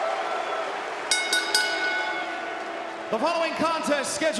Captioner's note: bell ringing